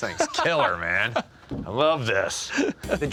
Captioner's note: chuckles